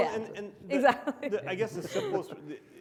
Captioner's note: panelists chuckle